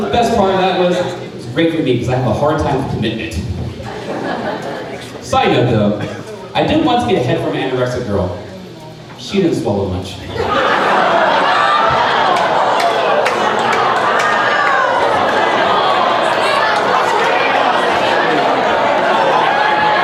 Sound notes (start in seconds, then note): 3.7 crowd laughing; 10.2 crowd laughing; 10.8 crowd chattering